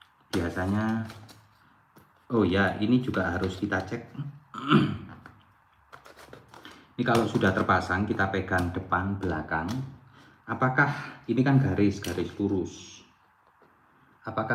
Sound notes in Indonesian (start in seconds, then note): 4.1 berdehem